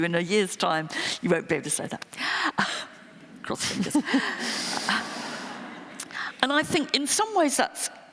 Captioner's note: laughter